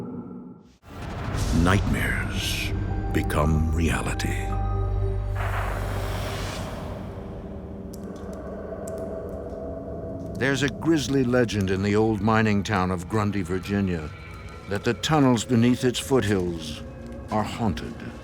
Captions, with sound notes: nightmares become reality. (thunder crashing) (ominous music) There's a grizzly legend in the old mining town of Grundy, Virginia, that the tunnels beneath its foothills are haunted.